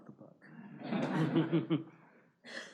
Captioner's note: laughter